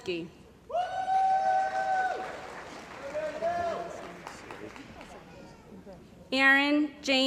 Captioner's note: cheering & Applause